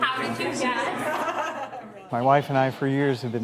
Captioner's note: laughing